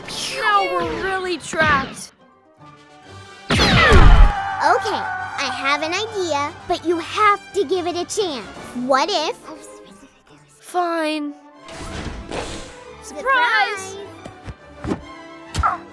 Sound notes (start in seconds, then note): 9.3 whispers; 15.6 grunts